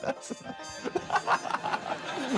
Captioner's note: laughs